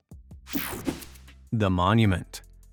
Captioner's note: image whipping effect